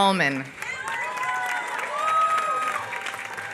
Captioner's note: applause